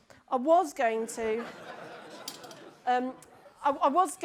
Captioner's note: audience laughs